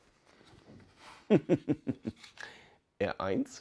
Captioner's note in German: Kichert